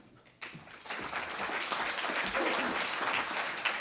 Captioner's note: applause